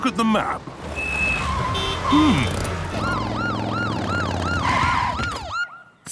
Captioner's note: honking, sirens